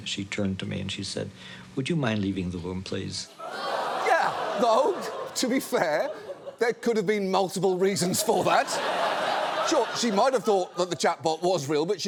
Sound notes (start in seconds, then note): 3.4 audience exclaims; 7.9 audience laughs